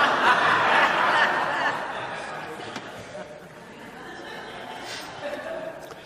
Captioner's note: audience laughter